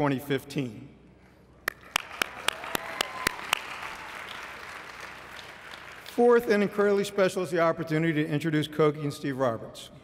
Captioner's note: applause